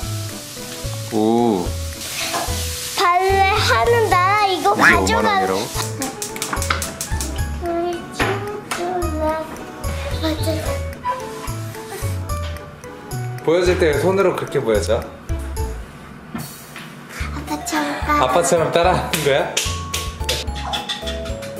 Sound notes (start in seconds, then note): 19.6 clap